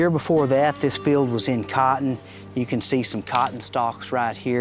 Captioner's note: stalk snapping